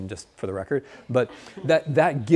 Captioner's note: students laughs